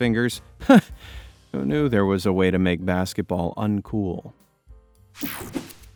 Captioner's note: laughs